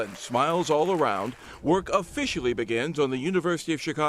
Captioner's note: applause